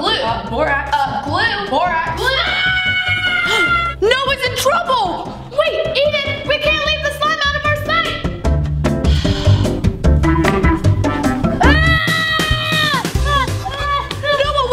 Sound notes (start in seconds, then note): 2.3 screaming; 9.4 sighing; 11.7 screaming